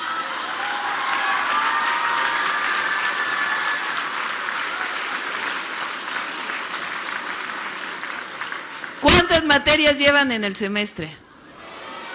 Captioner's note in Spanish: aplausos